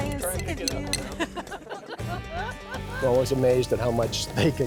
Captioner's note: laughter